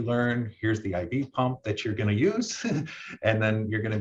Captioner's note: laughs